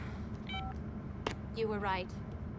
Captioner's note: beeps